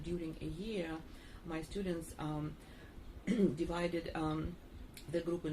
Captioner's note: clears throat